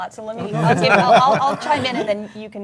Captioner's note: panelists laugh